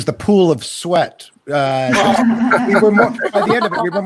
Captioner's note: participants laugh